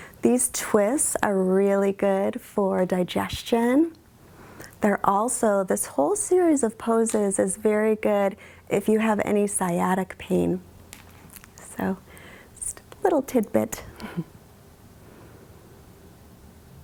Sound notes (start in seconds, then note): 14.0 chuckles